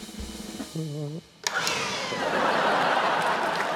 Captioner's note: leaf blower whizzes; cheering, applause